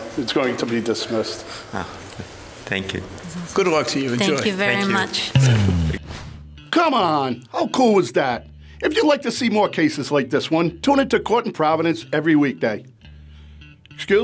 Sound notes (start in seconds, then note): 4.2 upbeat music; 5.3 swooshing